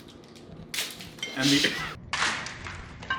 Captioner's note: snaps; laughs